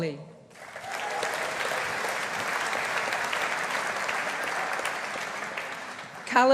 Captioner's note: audience applauding